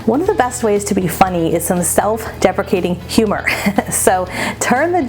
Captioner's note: laughing